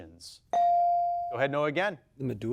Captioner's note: bell dings